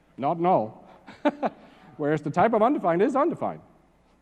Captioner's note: laugh